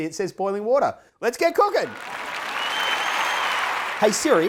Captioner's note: cheers